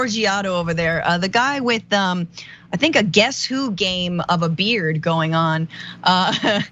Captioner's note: laugh